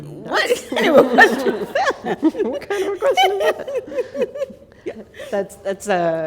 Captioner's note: laughter